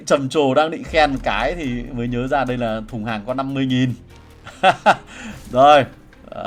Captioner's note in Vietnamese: tiếng cười